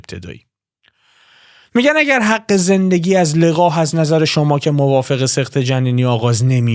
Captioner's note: gasp